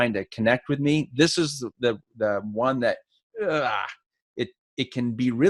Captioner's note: groans